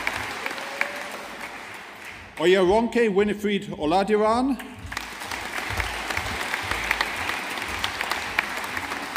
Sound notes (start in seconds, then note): 4.6 audience applauding